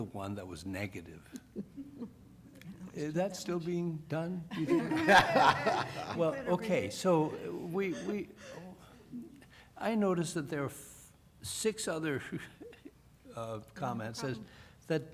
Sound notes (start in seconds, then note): 1.0 laughter